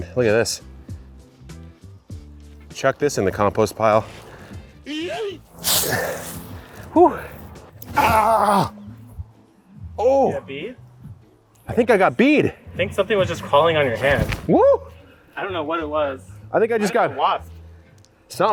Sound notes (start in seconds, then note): 5.5 yeet sound effect